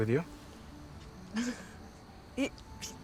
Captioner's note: chuckles